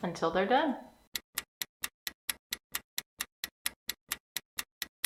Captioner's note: clock ticking